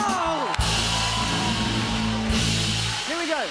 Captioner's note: cheers and applause